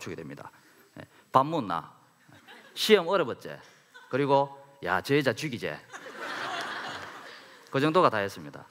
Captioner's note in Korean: 웃음